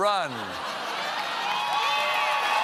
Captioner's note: laughter; cheers; applause